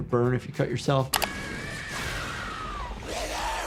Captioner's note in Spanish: Lilly grita